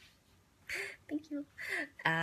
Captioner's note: laughs